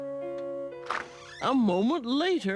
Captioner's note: door creaks softly